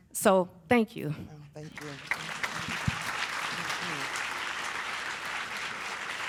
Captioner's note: applause